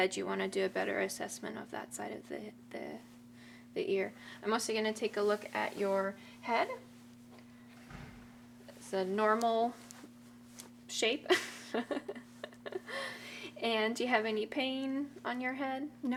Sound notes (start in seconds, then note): 11.4 laughing